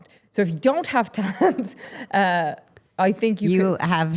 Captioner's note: laughing